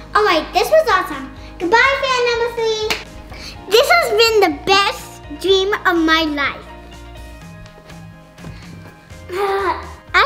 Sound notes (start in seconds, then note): 2.8 claps; 6.8 light instrumental music